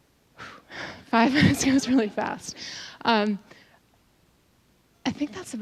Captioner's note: laughing